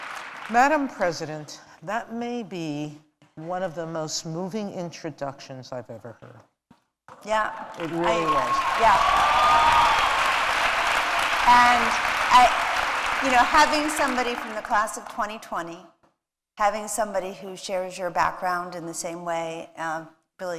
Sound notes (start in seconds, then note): 9.5 applause